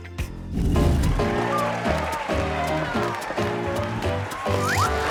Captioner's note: applause